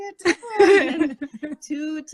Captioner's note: laughing